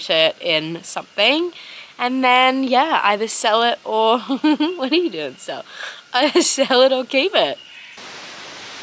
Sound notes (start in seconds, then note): 4.2 laughs